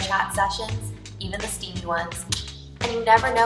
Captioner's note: mouth clicking